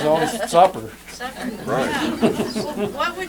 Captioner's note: laughter